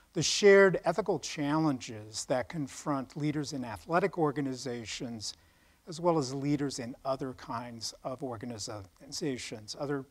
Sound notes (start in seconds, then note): none